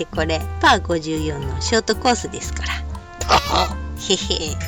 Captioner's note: laughs